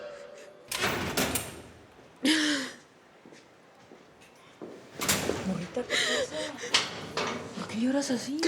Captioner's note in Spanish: Sonido de rejas al abrir; Sollozos